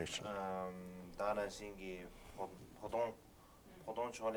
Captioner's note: non-english speech